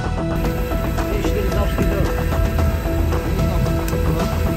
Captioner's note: plane engine whirring